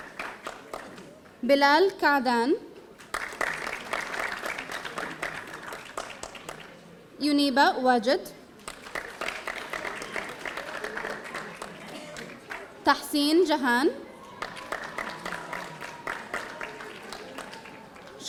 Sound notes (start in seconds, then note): 3.0 audience applauding; 14.0 audience applauding